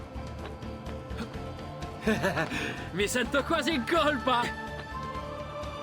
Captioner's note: laughs